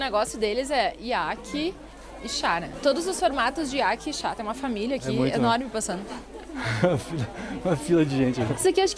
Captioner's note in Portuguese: risadas